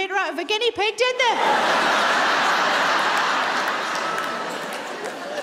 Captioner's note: audience laughs